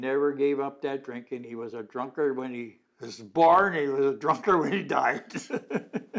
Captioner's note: laughs